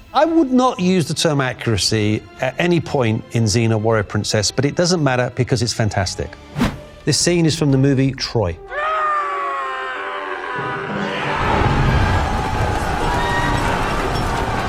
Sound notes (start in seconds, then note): 9.2 yelling; 11.5 all yelling